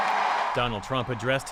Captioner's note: cheering